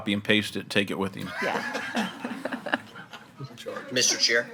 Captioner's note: all laughing